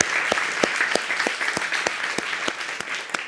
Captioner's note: audience applauds